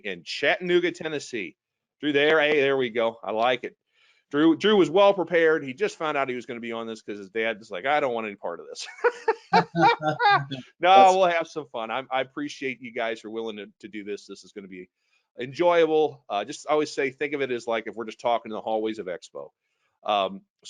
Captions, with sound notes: in Chattanooga, Tennessee. Drew there. Hey, there we go. I like it. Drew was well prepared. He just found out he was gonna be on this 'cause his dad's was like, "I don't want any part of this." (all laughing) No. We'll have some fun. I appreciate you guys are willing to do this. This is gonna be enjoyable. Just, I always say, think of it as like, if we're just talking in the hallways of expo.